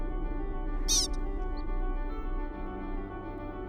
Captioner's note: Pika call